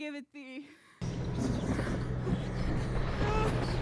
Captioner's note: thunder rumbling, whispering